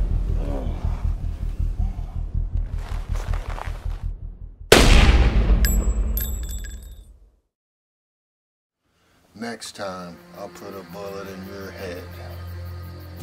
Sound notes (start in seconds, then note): 4.7 gun shot fires